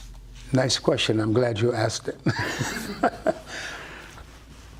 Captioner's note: laughter